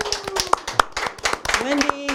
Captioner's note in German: applaus